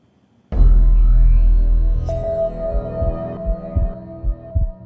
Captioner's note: Bulletproof gong